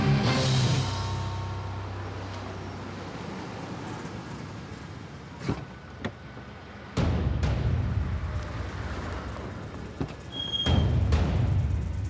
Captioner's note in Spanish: ruido de un auto llegando